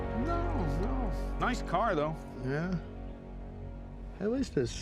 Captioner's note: scottish accent